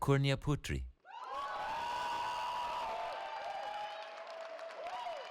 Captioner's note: cheering